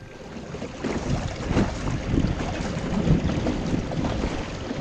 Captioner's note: water splashing